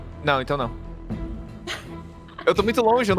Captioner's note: laughs